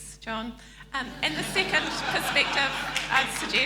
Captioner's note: laughing